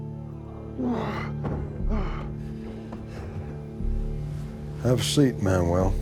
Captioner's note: groaning